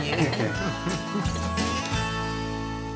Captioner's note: laughing